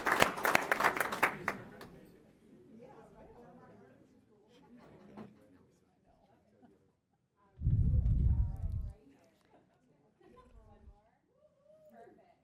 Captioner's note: applause